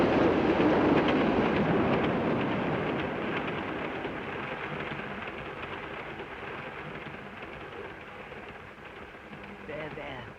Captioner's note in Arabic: صوت خشخشة القطار